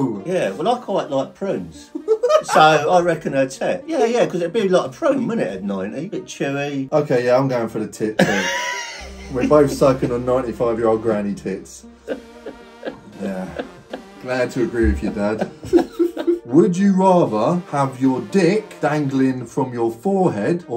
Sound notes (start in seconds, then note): 1.9 laughing; 8.7 father laughing; 13.5 father laughing